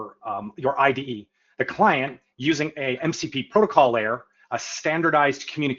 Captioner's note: none